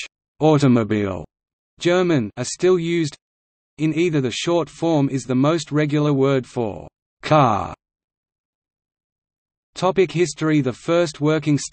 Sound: German

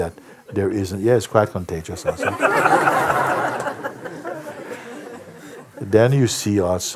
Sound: laughter

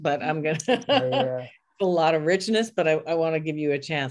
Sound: laughing

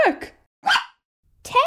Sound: bark!

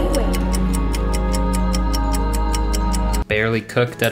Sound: clock ticking; ethereal music; cheerful music

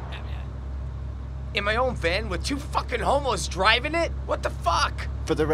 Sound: sputters

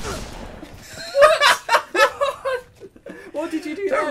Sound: laughs

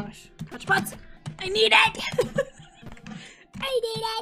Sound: laughs

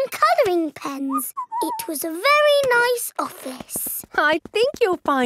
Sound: whistles

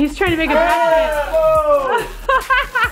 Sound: cheers; laughs

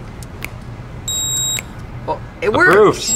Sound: beeping

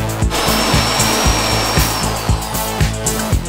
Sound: drilling

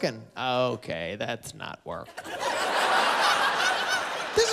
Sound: laughter

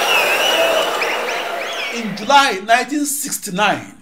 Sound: wild applause and cheering for 22 seconds

